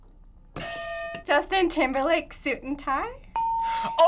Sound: hitting bell; ding

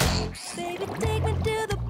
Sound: spits

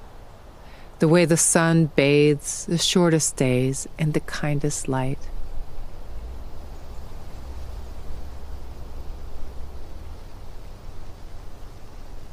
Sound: rattling of leaves

